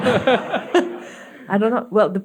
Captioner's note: audience laughing